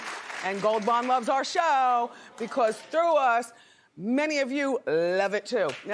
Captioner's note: cheers and applause